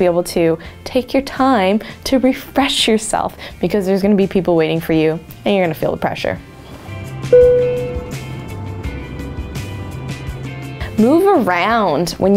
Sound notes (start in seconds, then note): 7.3 dinging; 8.8 upbeat music